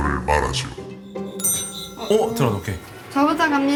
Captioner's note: ding